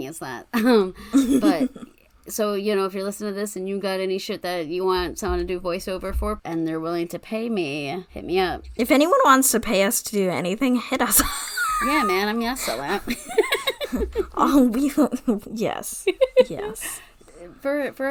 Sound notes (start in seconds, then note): 0.8 laughs; 11.2 wheeze laughs